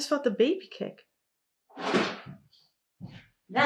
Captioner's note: drawer thuds